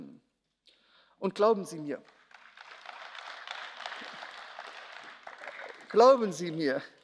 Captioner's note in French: Beifall